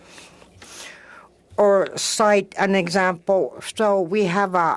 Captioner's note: speaking French